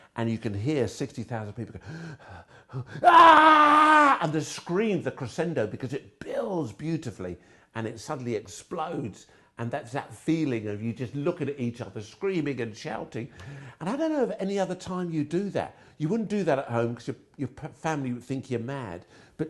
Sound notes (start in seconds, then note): 1.8 gasping; 3.3 yelling